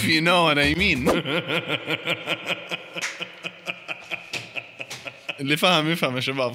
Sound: laughter

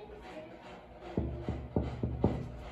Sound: knocking

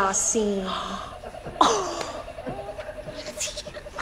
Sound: laughing; soft gasps

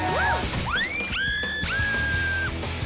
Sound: screams in Waterworld

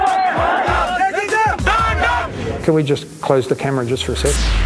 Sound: chanting

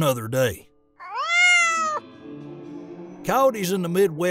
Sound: cat meows

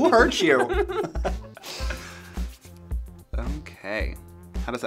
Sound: laughing

